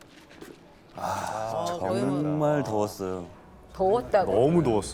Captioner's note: exclaiming